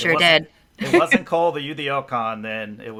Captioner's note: laughs